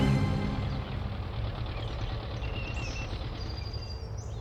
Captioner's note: birds chirping